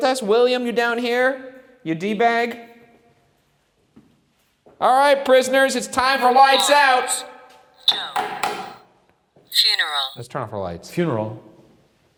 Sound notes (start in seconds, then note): 8.2 flashlight tapping